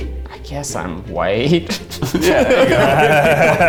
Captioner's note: laughs; all laughing